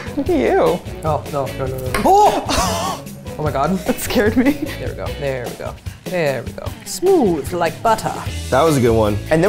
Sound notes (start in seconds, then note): 2.1 laughing